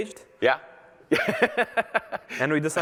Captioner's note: laughter